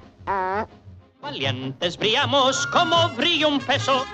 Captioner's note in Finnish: espanjaa